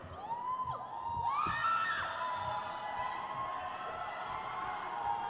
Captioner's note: crowd cheers